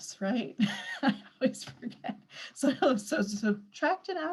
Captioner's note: laughs